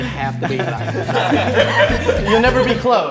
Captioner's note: all laughing